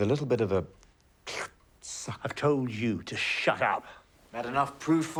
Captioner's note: slurps